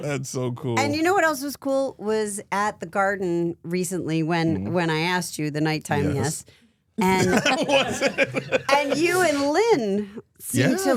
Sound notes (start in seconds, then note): 7.1 laughs